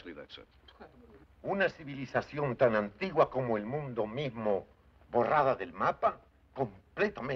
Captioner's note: speaking Spanish